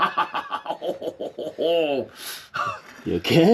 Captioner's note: laughing